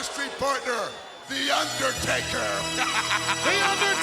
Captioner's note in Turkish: hahahahhaha